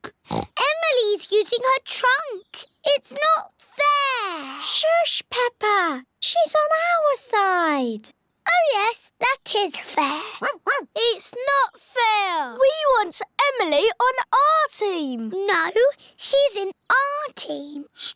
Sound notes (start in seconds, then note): 0.1 oinks; 10.4 barks